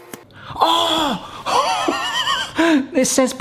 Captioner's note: laughs